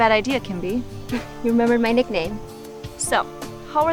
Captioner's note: chuckles